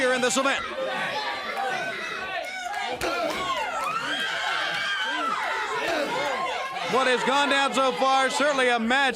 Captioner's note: crowd cheering